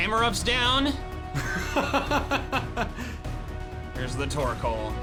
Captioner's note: laughing